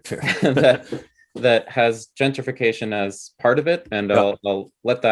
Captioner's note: chuckles